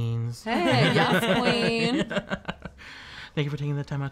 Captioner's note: laughing